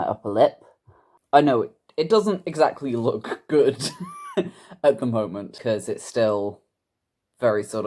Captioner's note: laughs